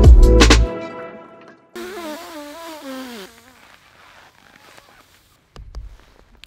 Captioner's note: music stops; man blowing raspberries; man tapping camera